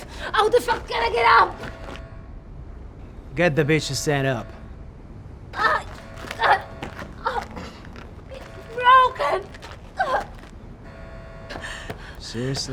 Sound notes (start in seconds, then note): 5.6 Megan moaning; 10.0 Megan moaning